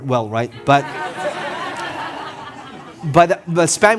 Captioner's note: audience laughing